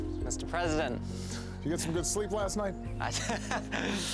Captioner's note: laughing